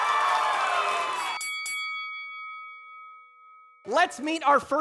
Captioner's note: audience applauding; bell ringing